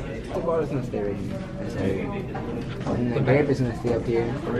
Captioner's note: students conversing